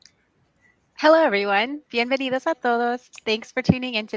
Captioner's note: foreign language